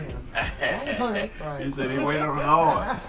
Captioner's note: laughs